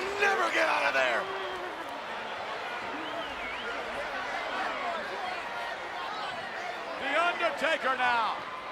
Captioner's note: applause